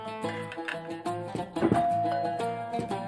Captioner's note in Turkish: Kapı zili